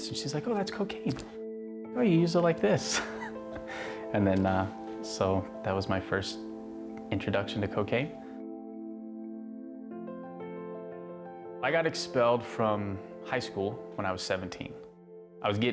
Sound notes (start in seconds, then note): 2.9 laughs